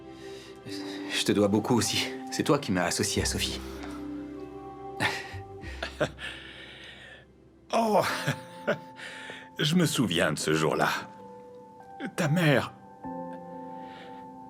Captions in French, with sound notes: Merci de m'avoir associé à Sophie, nous formons une bonne équipe. (rires) - Oh, je m'en souviens. Votre mère...